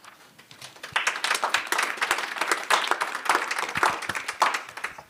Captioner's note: applause